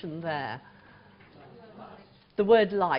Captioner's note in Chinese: 無聲